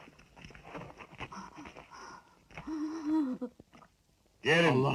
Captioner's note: Sumayyah whimpering